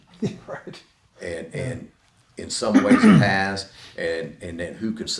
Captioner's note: laughs